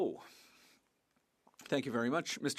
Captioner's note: speaking French